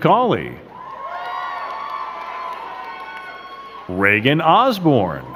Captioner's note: crowd cheering and clapping